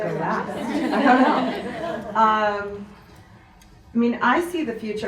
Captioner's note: audience laughs